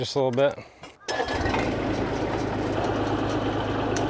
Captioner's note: vehicle engine starting; vehicle engine roaring